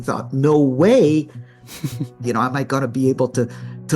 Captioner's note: chuckles